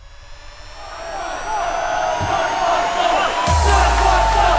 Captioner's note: All cheering